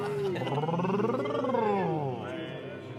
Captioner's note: all making noises